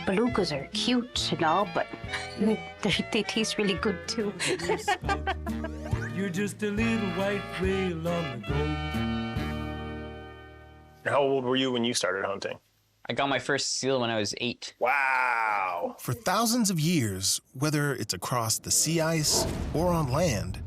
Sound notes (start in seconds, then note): 4.2 laughs; 6.0 whimsical music